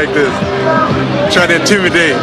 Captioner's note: laughs